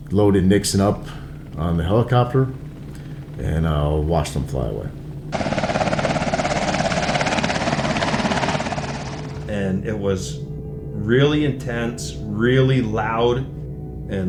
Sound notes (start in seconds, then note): 5.5 helicopter whirring